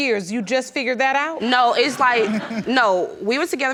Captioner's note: audience laughing